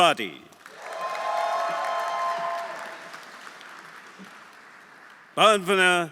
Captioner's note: audience applauding; audience cheering